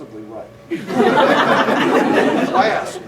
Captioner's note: laughter